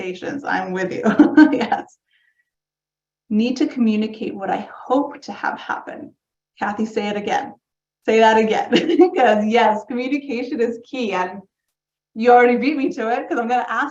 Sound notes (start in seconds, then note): 1.0 laughs